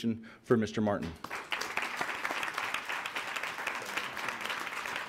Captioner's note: applauding